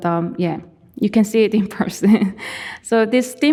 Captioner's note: chuckling